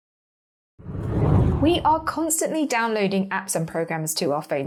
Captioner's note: air whooshing